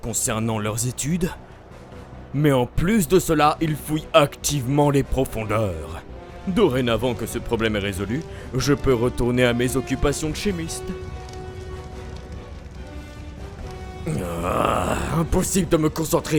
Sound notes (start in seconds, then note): 14.0 groaning